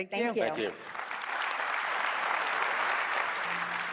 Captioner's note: applause